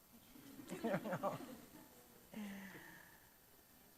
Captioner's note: chuckles